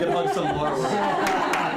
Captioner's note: applause